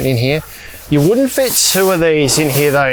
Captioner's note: fabric hissing